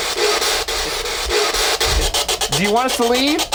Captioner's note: static buzzing